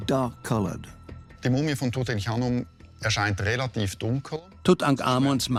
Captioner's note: speaks German